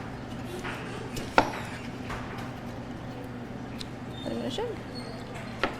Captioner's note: object thuds